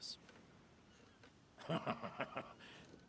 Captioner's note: chuckling